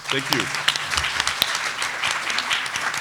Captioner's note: applause